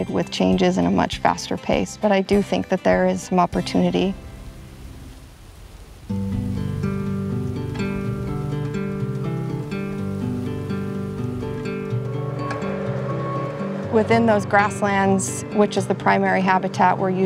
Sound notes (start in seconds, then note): 12.3 backhoe beeps